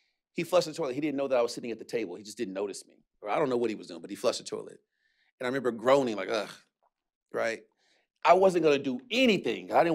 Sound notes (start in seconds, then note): 7.2 groans